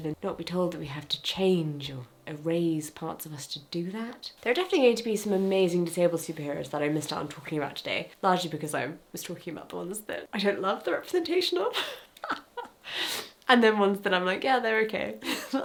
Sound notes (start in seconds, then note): 11.8 laughs; 15.3 laughs